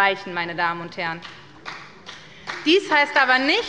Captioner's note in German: Beifall bei der SPD und der LINKEN